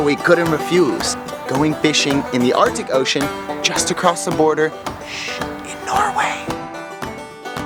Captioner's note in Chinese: 小聲